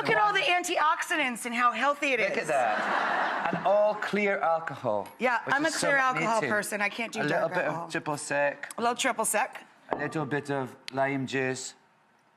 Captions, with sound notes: Look at all the antioxidants and how healthy it is. (audience laughs) Look at that, and all clear alcohol. Yeah, I'm a clear alcohol person, I can't do dark alcohol. A little bit of Triple Sec, a little bit of lime juice.